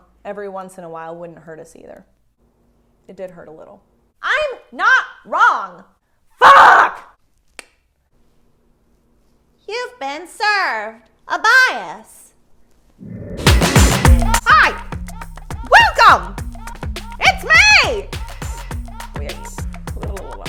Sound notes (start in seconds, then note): 7.7 tongue clicking; 13.4 upbeat music